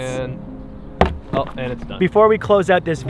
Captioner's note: pat